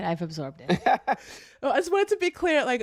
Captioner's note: laughter